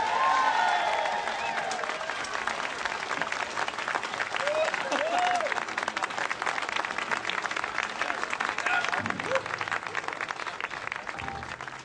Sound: applause

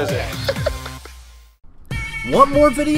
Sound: laughs

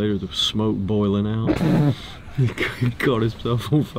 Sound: laughing

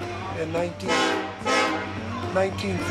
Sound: train horn blasts

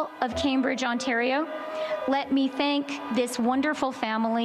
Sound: siren

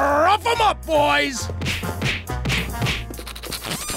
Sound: banging

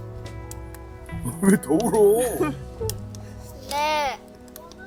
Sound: keeps crying at the thought of skipping

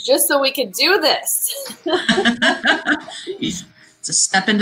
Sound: laughing

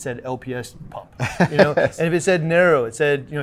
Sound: laughs

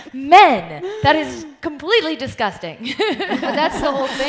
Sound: laughs

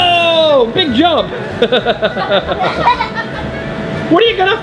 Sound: laughs

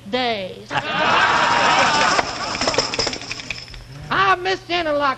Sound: laughter and tambourines

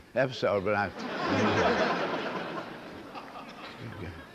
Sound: laughter

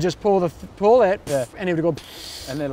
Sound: makes inflating noises

